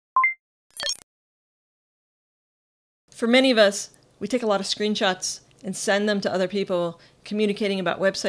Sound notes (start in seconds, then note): 0.7 beep